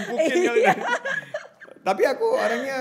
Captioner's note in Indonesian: tertawa